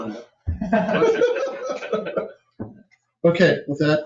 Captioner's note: laughter